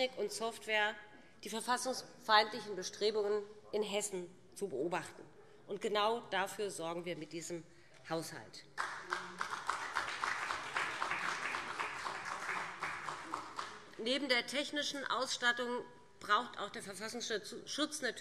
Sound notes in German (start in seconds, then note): 8.7 Beifall CDU